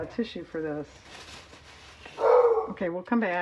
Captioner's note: dog barks